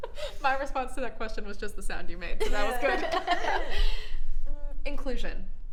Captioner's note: laughs; laughs